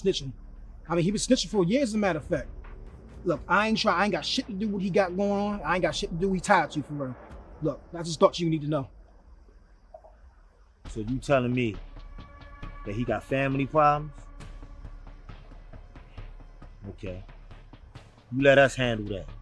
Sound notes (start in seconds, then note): 11.8 man speaks foreign language